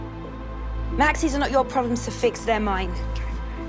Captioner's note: voiceover